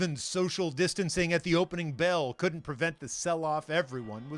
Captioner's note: bell ringing